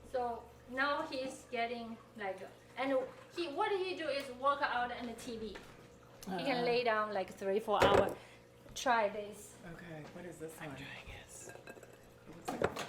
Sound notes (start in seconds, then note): 7.8 plate thumps